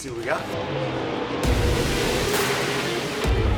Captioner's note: engines roaring; rock music playing